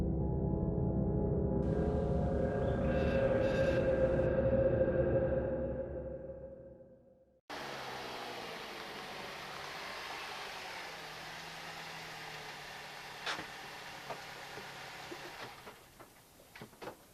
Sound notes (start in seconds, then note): 0.1 music fades; 4.8 engine; 13.2 parking brake engages